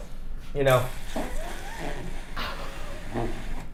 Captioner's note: blows air